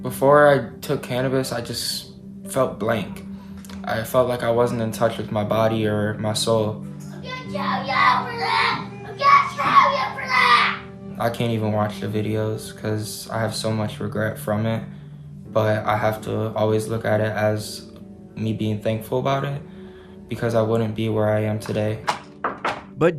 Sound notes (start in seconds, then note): 7.1 child yelling